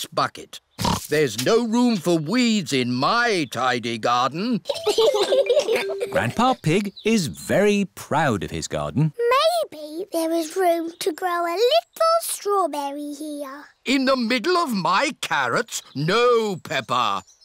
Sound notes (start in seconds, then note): 0.8 oinks; 4.7 both laugh